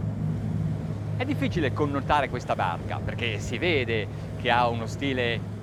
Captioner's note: speaking foreign language